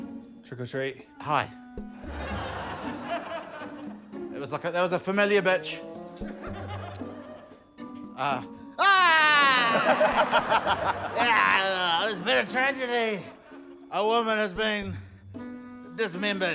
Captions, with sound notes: - Trick or treat. - Hi. That was, like, a― That was a familiar bitch. Uh... Ah! (LAUGHTER) (GROANS) There's been a tragedy. A woman has been dismembered.